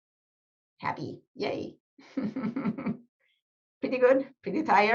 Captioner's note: chuckles